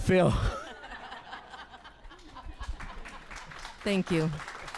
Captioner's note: audience laughing